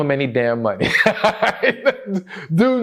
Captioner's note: laughter